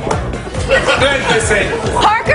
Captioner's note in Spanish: risas